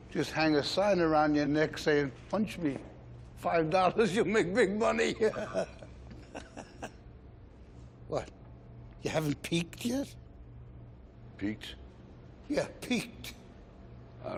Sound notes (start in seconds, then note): 5.1 laughs